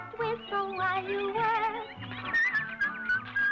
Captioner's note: whistling